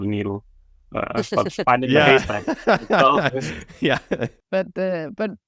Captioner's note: laugh laugh laugh